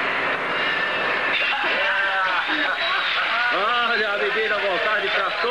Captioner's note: cheering